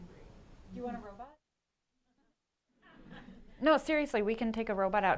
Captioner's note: laughter